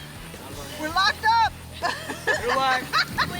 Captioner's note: laughs